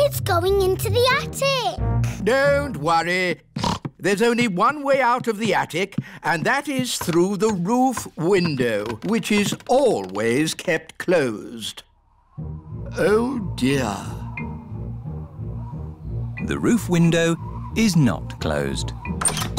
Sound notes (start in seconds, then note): 3.6 snorts